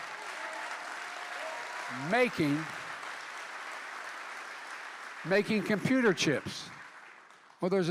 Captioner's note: applause